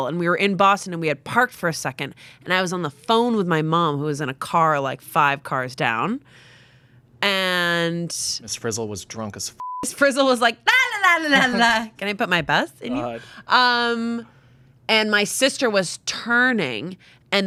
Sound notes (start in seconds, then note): 9.6 beep